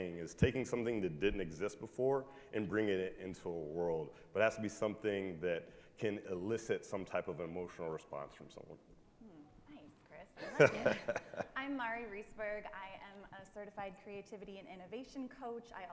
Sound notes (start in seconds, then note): 10.4 chuckles